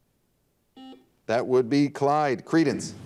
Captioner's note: buzzer dings